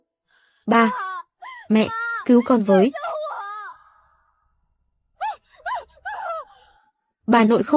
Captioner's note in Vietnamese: la hét